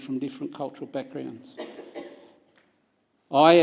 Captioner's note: coughing